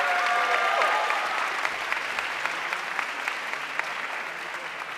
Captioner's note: audience cheering and applauding